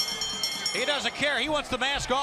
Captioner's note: bell ringing